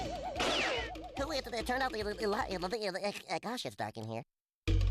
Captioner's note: Porky stuttering